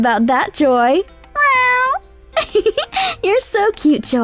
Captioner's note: Joy meows